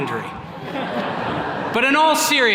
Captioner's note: attendees laughing